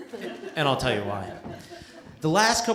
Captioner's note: laughter